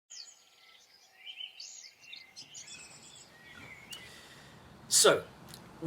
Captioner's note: birdsong